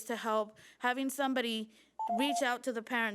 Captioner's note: timer trills